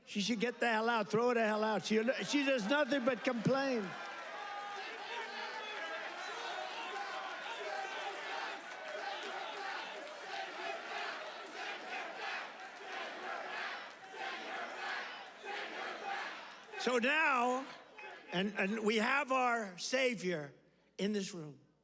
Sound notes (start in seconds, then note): 5.6 audience chanting "Send her back